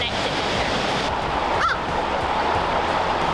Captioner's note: crow Caw